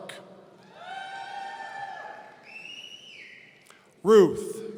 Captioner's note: audience cheering